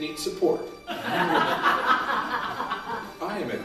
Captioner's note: laughter